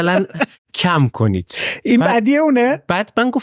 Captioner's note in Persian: خنده